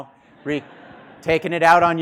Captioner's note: students laughing